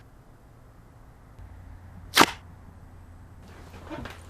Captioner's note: tearing